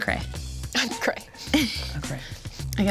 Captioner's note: giggles